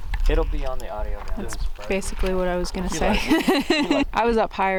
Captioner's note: laughing